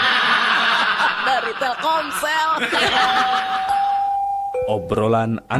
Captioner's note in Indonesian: tertawa